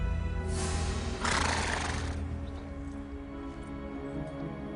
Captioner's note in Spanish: El caballo resopla